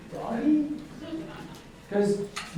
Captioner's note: audience laughing